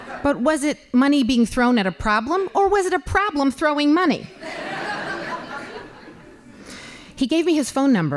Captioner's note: laughing; laughing